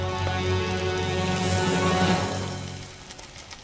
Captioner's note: oil sizzling